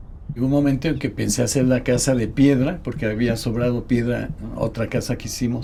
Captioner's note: continues in Spanish